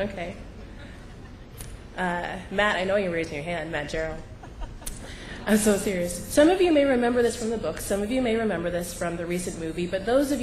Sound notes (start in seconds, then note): 4.3 laughter